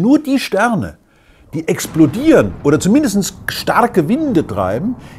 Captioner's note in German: Explosion